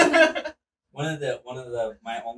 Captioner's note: laughing